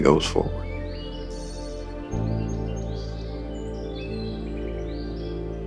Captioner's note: birds twittering